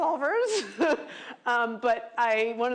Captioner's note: laughs